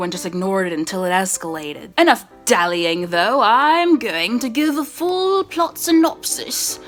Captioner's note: British accent